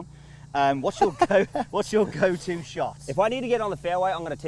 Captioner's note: Day laughing